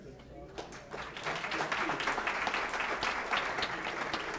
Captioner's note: applause